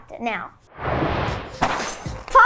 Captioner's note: animated explosion booming; cereal box thudding